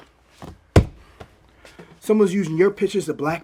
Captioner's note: taps table